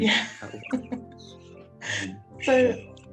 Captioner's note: laughs